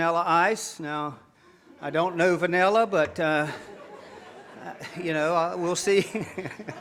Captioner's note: laughs